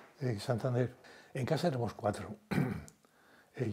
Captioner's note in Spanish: Carraspea